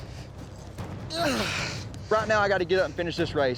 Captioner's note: grunts